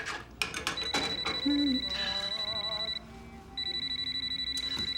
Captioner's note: phone ringing